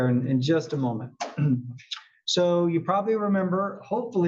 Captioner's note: cough